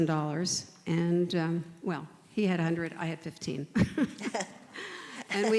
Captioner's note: chuckles